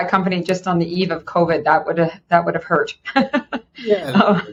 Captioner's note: laughing